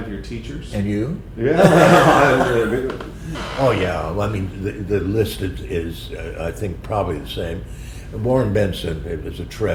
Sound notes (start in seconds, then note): 1.5 laughter